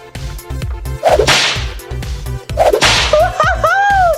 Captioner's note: door whips